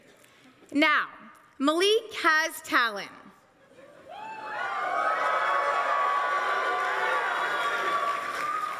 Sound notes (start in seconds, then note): 4.3 crowd applauses